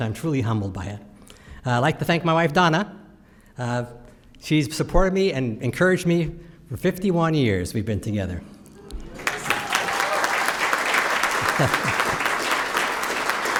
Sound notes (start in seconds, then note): 9.1 applause